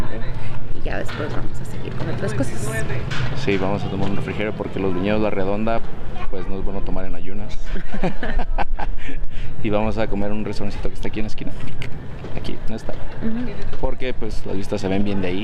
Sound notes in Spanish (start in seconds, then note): 7.6 risas